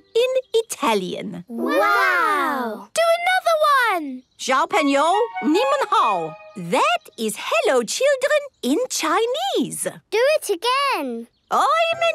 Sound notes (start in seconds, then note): 2.9 speaking Chinese; 10.1 speaking Portuguese